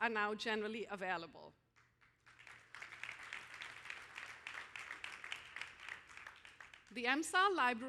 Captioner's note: applause